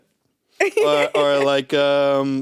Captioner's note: giggles